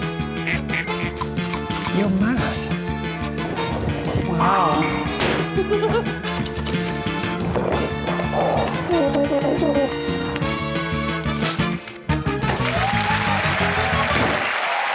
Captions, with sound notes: [ducks squawking] You're mad. Wow. -[giggles] -[typewriter clacks, dings] -[exhales sharply] -[plays French horn] [audience cheers and applauds]